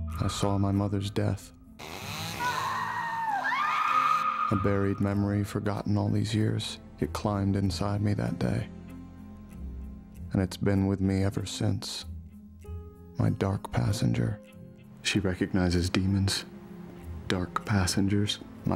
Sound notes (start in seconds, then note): 1.8 chainsaw buzzing; 2.0 screaming